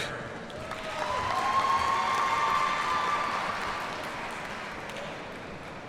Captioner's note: audience cheers and applauds